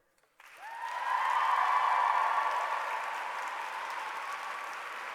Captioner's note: applause